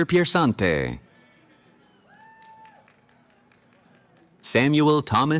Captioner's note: cheering